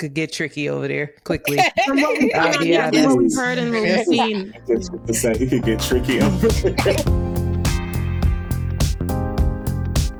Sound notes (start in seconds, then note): 1.5 laughing; 7.0 upbeat music